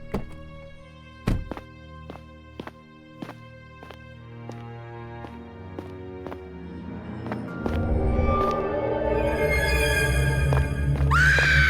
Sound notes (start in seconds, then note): 1.8 footsteps shuffling; 8.6 eerie music